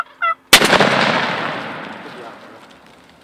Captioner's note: turkey gobbles; gun shot